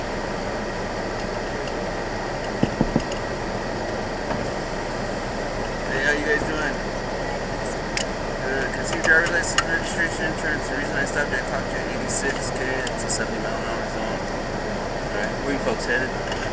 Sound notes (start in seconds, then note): 2.6 knocks 3 times